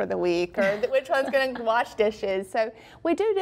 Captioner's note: laughs